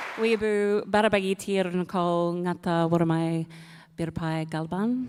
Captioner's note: speaks native language